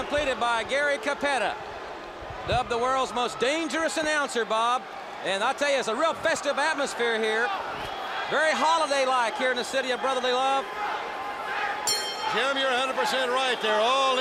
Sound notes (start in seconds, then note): 11.4 crowd cheering; 11.8 bell ringing